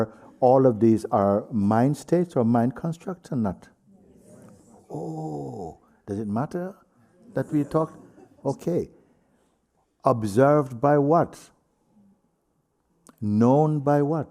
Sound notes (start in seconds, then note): 3.9 voices in group; 7.0 voices in group